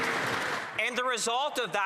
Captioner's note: some Applause